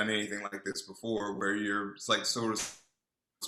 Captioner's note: voice scrambles